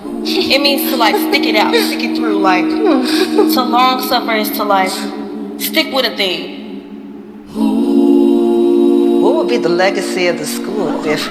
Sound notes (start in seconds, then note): 7.7 humming